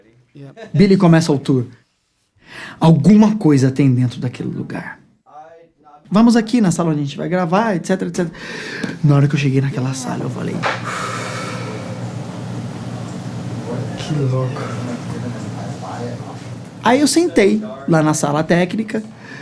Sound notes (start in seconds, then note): 10.6 exhale